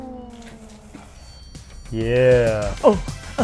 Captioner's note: beeping